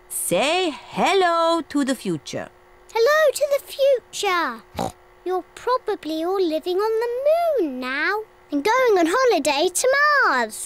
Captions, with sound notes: Say hello to the future. Hello to the future. (OINKS) You're probably all living on the moon now. And going on holiday to Mars.